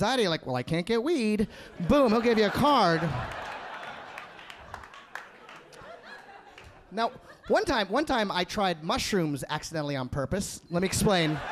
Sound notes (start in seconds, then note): 3.3 audience laughing